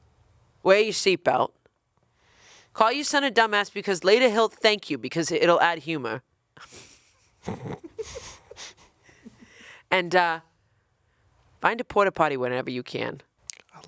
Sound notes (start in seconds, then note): 6.6 chuckling